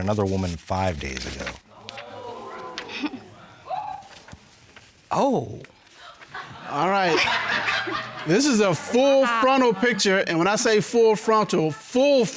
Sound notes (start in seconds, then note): 1.7 audience exclaiming; 2.1 chuckles; 6.0 audience laughing